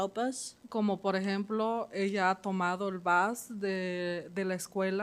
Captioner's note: speaking Spanish